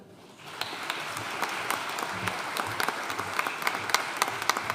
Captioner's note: audience applauding